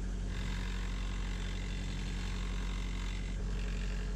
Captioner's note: buzzing